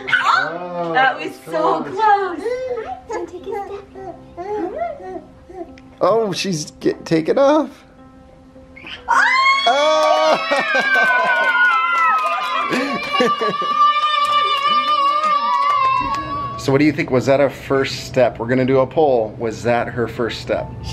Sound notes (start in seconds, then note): 9.1 cheering